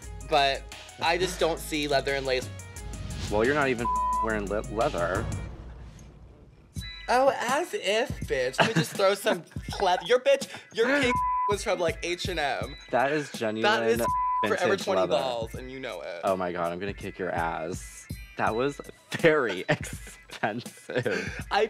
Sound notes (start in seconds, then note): 8.5 Pearl laughing